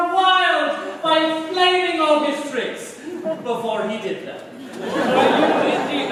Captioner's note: laughter